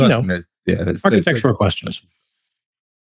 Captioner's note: laughing